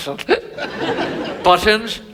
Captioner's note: Button hiccups